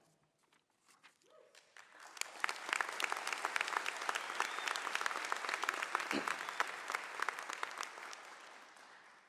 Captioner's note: applause